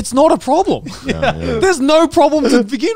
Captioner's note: chuckles